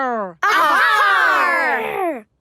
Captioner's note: all shouting